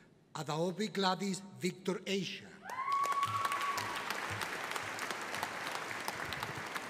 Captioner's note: audience applauding